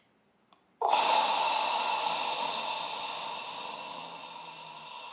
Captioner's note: man exhaling